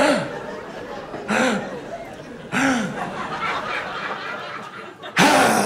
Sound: labored breathing

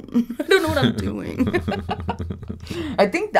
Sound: laughing

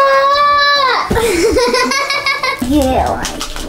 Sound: yells; girl laughs

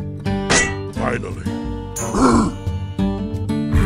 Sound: grunts

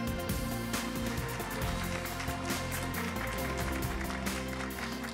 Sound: audience applause; upbeat music

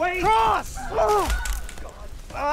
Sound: grunt/thud

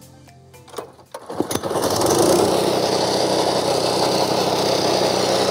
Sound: lawn mower running

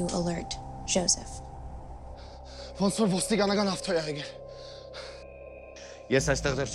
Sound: Zhozef speaking in foreign language

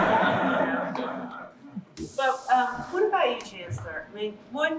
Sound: laughing

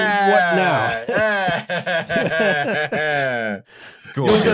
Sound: laughs

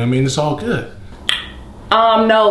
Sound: smacks lips

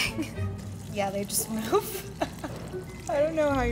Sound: laughs

